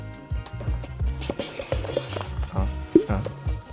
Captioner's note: box lid struggling to close